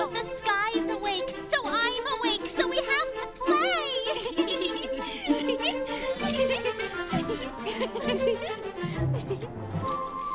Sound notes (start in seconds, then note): 4.0 Anna and Elsa laughing